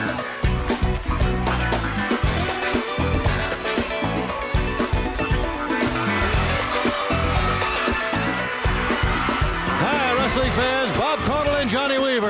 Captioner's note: crowd cheering